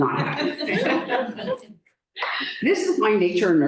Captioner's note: laughter